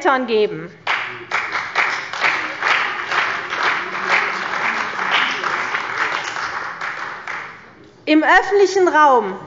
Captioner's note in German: Beifall bei der CDU, dem BÜNDNIS 90/ DIE GRÜNEN und der FDP